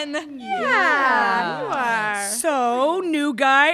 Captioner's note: merry men utter various mildly encouraging words